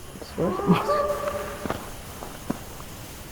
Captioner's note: whooping